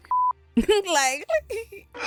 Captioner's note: laughs